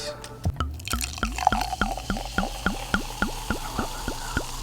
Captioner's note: wine gurgling